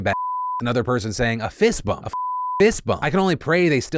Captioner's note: beep